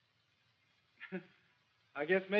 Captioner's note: laughs